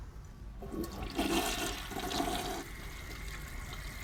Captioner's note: toilet gurgles